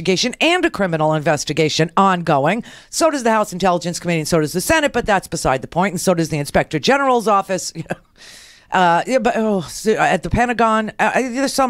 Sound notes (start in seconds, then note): 7.8 chuckles